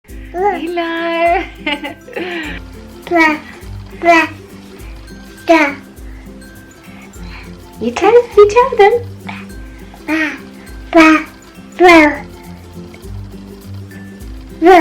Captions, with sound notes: - Hello (laughs) (baby babbling) You tell them. (baby babbling)